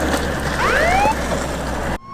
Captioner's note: police siren goes off